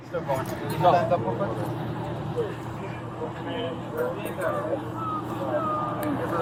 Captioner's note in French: groupe conversant indistinctement